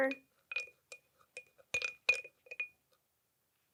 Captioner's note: spoon tapping